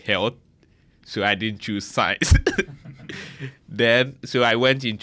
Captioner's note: laughs